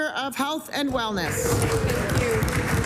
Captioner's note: applause